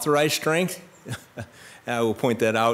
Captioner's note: laughs